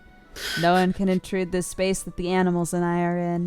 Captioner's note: cry; snickers